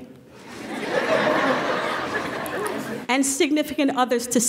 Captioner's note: laughter